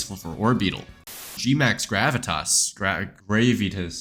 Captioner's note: static